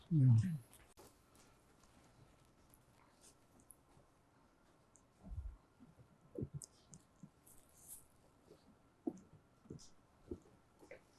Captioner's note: pauses 23 seconds